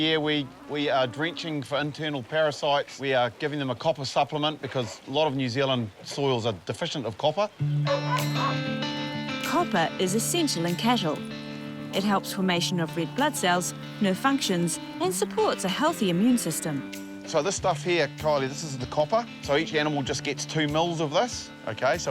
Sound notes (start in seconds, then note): 7.8 dog barks